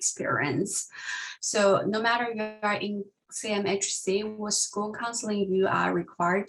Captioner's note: sound distortion